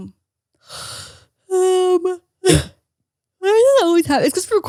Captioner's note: yawns